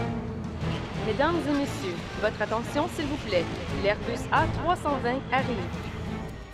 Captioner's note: lady in background speaks foreign language